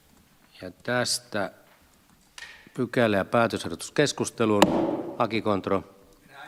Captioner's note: Nuijan kopautus